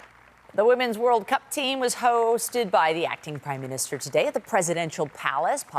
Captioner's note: applause